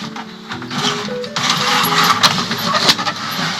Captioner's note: sound of blinds being closed; sound of plastic trumpet